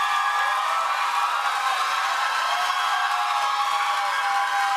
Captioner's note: cheers and applause continues